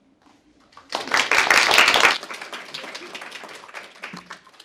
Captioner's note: applause